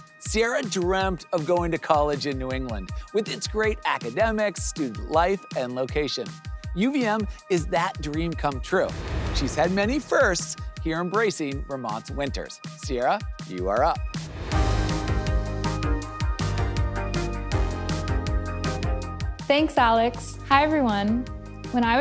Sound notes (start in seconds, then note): 14.1 air whooshes; 15.2 upbeat music